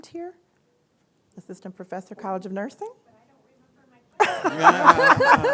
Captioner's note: laughter